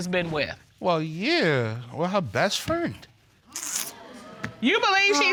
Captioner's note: clicks tongue